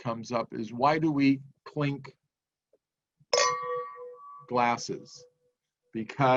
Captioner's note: clinks glasses